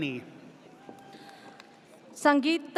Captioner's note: audience cheers